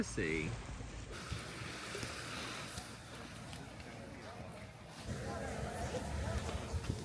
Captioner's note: waves splashing; footsteps thudding